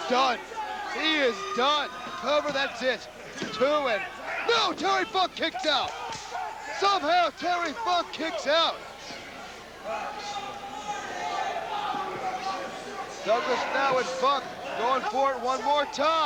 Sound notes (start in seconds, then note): 5.6 crowd cheering